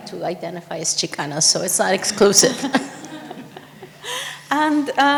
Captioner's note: laughs